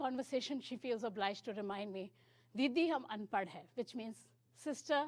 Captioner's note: speaking hindi